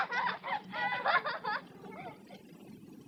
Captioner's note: screaming and laughing